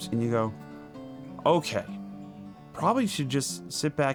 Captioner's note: none